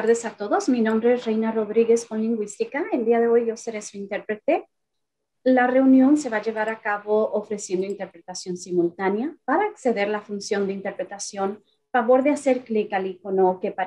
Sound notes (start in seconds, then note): 3.0 Spanish